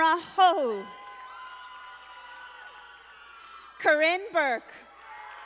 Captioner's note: audience applauding